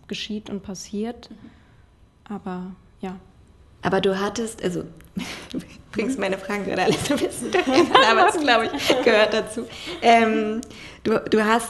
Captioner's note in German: lacht